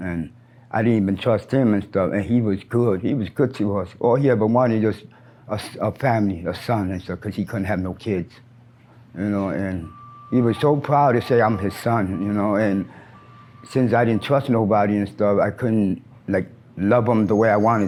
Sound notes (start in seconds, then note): 9.2 truck beeps